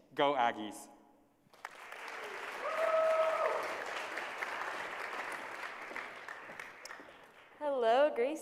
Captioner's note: applause